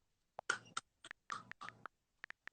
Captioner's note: claps